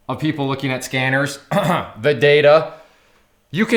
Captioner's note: clears throat